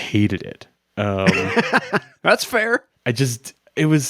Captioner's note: chuckles